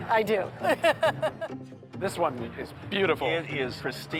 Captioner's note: laughs